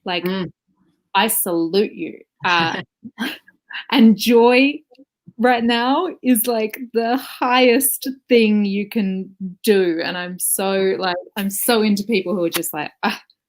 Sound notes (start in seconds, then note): 2.4 laughs